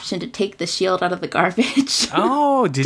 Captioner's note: laughs